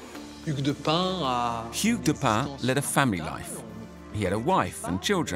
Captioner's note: speaking French